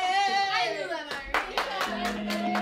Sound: applause; bright guitar music

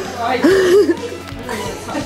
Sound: laughs

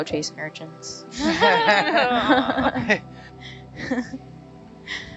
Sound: everyone laughs

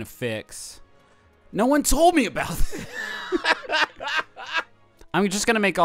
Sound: laughing

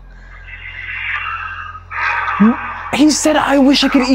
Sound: deep sigh

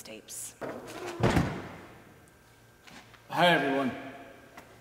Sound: door banging

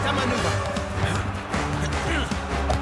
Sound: grunts

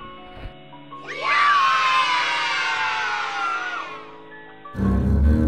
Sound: foot Steps; children Saying Yay

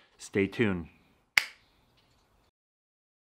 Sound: snap

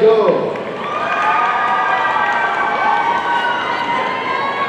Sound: audience cheering

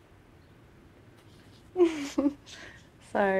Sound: chuckle

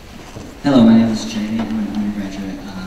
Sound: voiceover

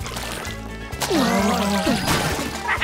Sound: groaning; laughing

